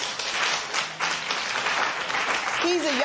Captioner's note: applause